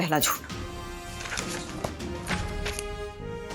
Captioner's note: pages ruffling